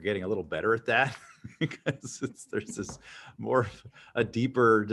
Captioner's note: chuckles